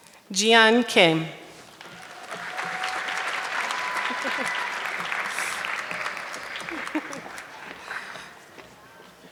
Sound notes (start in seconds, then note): 1.5 audience clapping